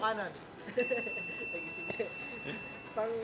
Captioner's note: laughs